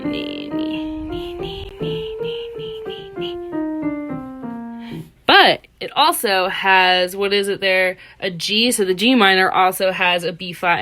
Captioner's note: humming